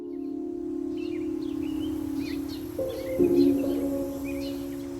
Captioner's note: birds chirping; soft music